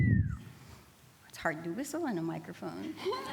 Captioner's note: bird whistle